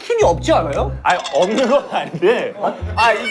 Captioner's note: scratching